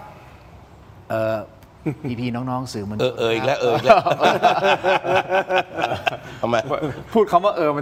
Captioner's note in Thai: เสียงหัวเราะ